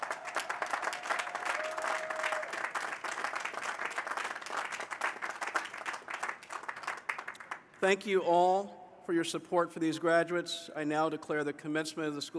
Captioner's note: applause